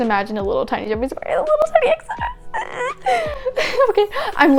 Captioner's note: continues to make weird noises because im dying of cuteness